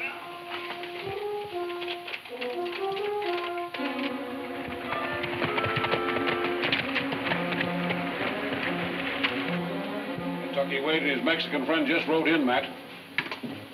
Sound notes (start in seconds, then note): 3.7 horses galloping